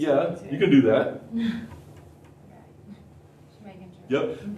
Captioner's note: laughter